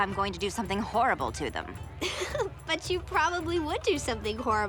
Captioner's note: chuckles